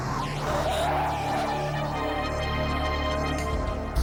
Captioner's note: tires screech